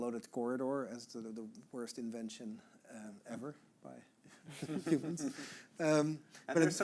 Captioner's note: chuckling